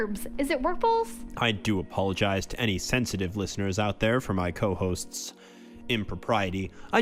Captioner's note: sighs